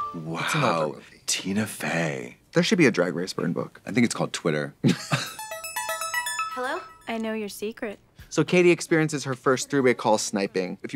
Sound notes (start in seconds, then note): 4.8 Trixie giggles; 5.1 upbeat music